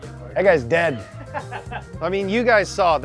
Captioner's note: laughing